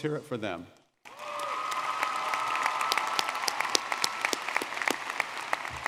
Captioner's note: audience cheering and clapping